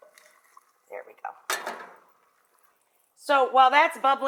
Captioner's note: metal pot clanks